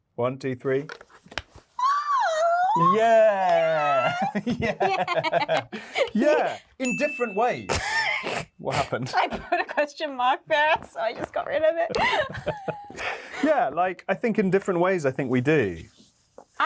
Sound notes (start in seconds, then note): 6.8 bell dings; 7.9 Yerin laughing; 11.8 both laughing